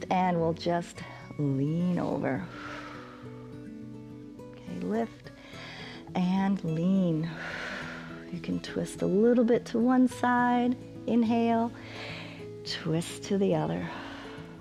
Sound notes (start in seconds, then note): 2.4 exhales; 5.3 exhales; 11.7 exhales; 11.7 inhales